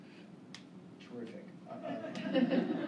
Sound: laughter

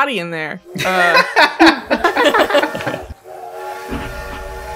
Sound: laughter

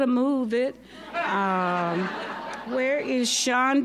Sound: audience laughing

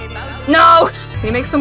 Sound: laughs

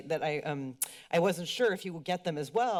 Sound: clicks tongue

